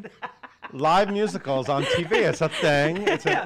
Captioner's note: laughing